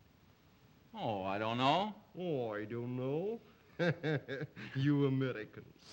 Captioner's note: chuckles